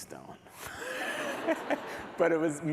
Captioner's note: laughter